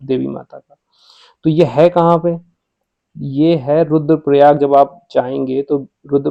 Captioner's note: nasal voice